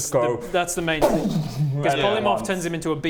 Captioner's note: booooooom